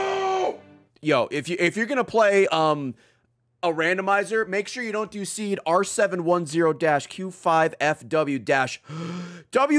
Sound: inhales

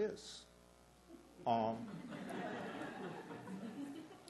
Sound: laughter

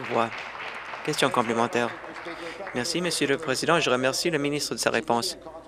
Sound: applause

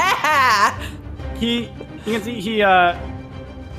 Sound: laughs

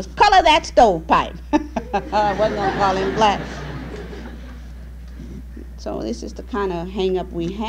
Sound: laughter

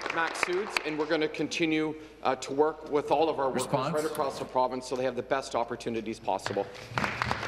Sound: applause

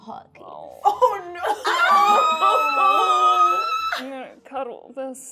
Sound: shrieking

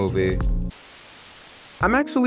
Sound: static buzzing

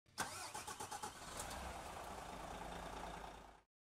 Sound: engine revving

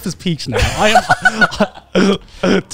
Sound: everyone laughs

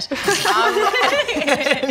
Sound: giggles

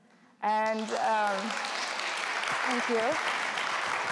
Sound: applause

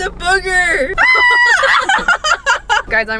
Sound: screams again

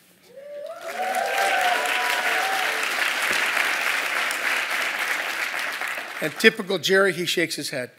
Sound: applause

